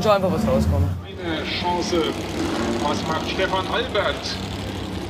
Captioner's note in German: Lautsprecher